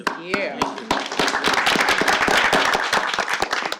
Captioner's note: applause